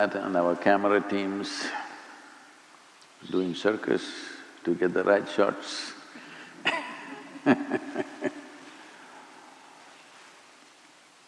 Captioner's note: laughs; laughs